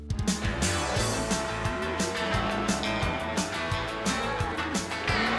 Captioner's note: mooing